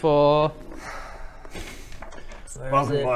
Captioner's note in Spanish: suspiro resignado